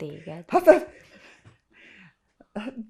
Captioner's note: laughing